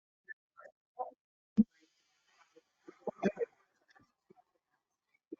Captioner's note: narrator speaking distantly